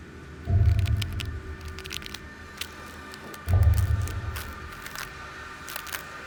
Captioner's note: ominous music; suspenseful music; distant crackling